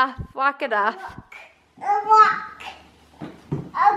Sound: babbling

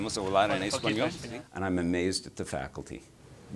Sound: foreign Language

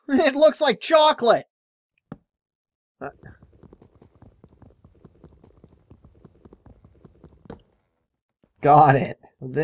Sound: picking sounds

